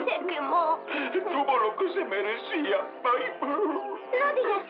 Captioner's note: grunts